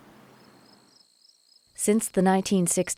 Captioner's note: crickets chirp